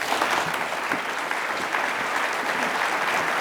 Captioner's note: applause